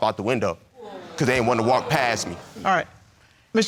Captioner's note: audience exclaiming